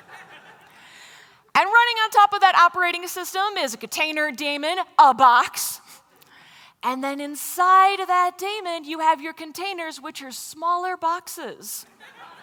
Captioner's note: laughter; laughter